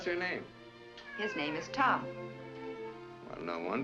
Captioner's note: cat meows